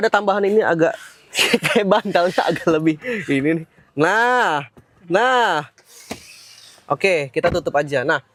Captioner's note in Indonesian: tertawa